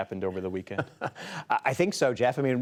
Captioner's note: laughter